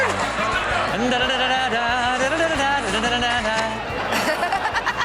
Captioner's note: everyone laughs